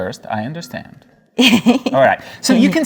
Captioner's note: laughs